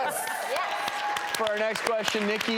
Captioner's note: audience cheering